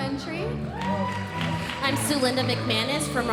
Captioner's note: audience applauding